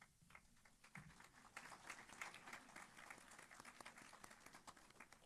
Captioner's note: applause